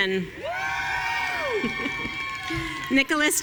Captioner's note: audience cheering